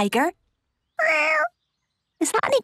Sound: small meow

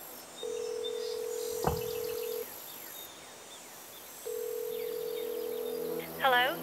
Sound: phone rings; threatening music

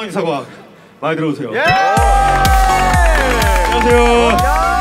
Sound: applause

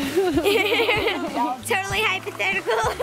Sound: laughs

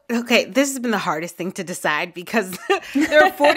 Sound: laughter

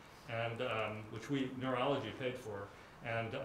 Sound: none

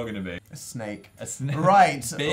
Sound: laughs

